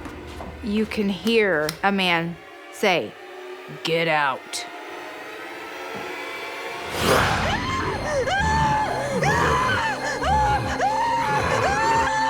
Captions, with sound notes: - You can hear a man say, "Get out." (screams) (growls)